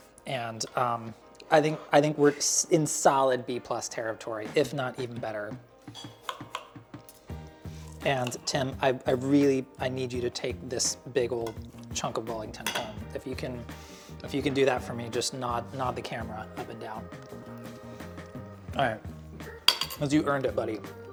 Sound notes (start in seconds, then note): 5.9 knife clinks against plate; 6.0 upbeat pleasant music